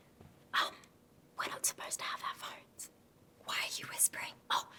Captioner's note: whispers